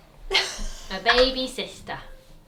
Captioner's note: laughs